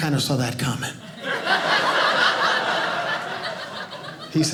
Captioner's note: audience laughing